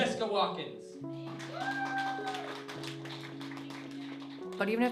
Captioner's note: audience applause